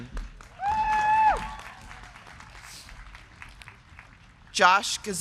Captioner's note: crowd clapping; crowd cheering